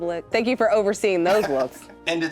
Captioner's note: laughs